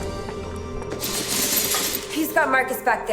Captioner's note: chain rattles